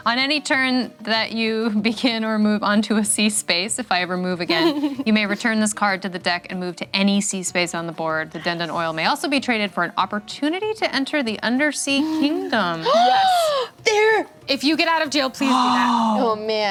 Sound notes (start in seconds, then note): 11.9 gasps